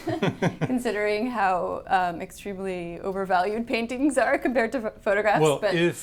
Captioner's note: chuckles